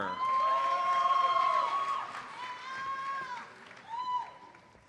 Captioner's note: audience cheers and applauds